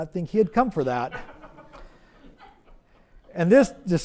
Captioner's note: audience laughs